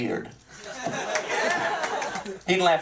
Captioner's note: laughter